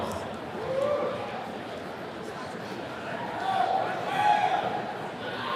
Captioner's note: attendee cheering